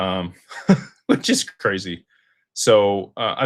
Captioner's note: laughter